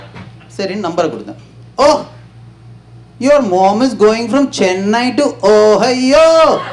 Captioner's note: in a strange accent